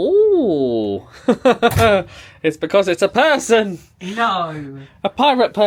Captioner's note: laughs